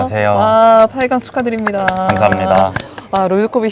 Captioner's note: applause